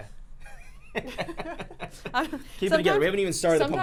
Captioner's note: laughing